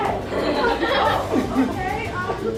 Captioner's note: laughter